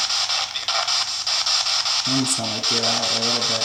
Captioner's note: static